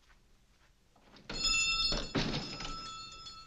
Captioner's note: door bells rings